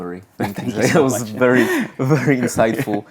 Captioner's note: both laughing